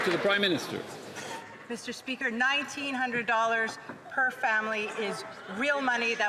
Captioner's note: some Applause